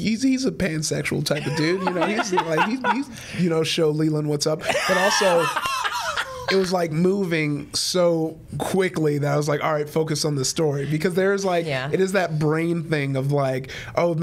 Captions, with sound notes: He's a pansexual type of dude (Brennan guffawing) You know, he'd show Leeland what's up. (Brennan laughing hysterically) But also, it was moving so quickly that I was like, All right, focus on the story because it is that brain thing of,